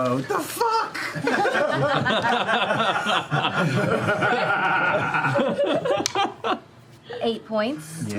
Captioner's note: laughter